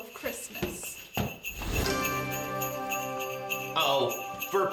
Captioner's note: magical poof